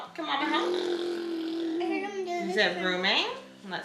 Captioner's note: blows his lips